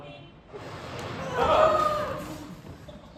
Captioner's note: explosion